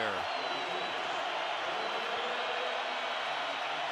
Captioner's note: crowd cheering